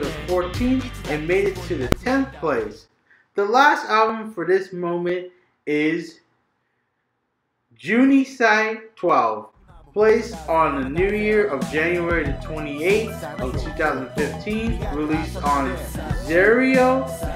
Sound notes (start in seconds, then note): 4.8 says 12th in Japanese and English; 12.5 album plays